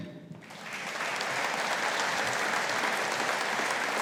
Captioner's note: audience applauding